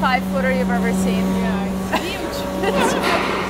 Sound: laughs

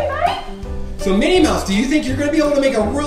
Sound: voiceover

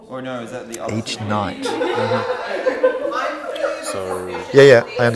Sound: background hubbub and laughter

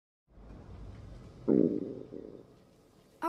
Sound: Selina'a stomach growls

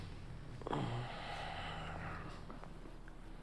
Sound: moans

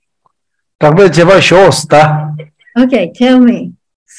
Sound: man speaks in foreign language

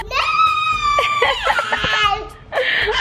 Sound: screeching

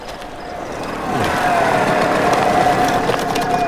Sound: vehicle roaring

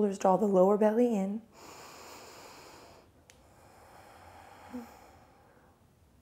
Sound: slowly inhales and exhales

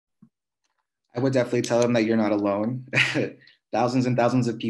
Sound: laughs

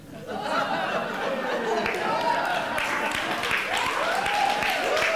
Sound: audience laughing

